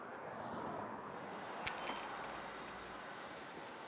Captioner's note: bell jingles